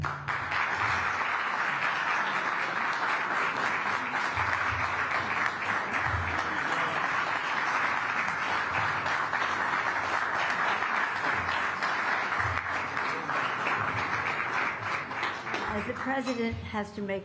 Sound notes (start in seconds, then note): 1.1 applause